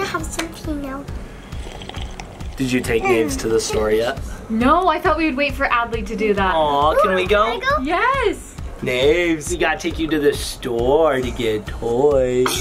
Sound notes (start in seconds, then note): 1.2 slurping tea